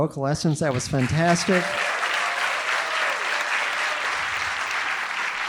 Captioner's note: audience applauding